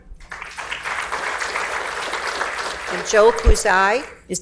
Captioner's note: audience applauds